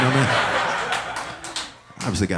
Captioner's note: audience laughing